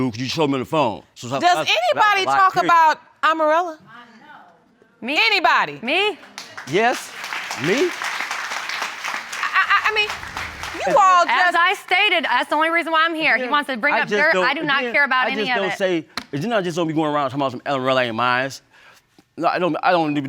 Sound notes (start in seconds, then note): 5.9 applause